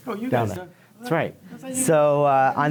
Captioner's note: speaking off microphone